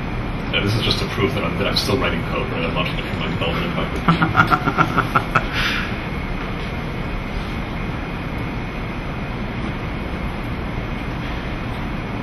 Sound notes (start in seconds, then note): 4.0 laughs